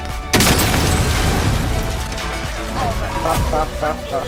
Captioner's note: weapon exploding; players laughing